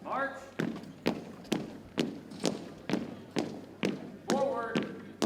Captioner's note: boots thumping